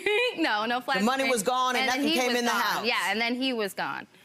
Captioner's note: laughs